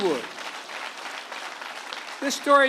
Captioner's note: applause